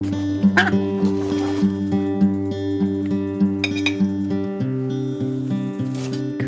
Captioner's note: loud quack, guitar sound, kitchen andf farm noises